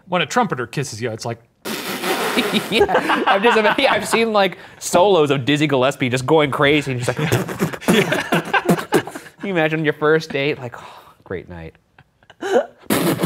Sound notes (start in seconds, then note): 1.6 professor blows raspberry; 7.0 Professor and Steven laugh; 7.2 beatboxes